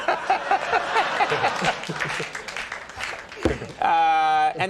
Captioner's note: everyone laughing